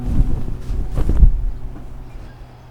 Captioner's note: fabric rustles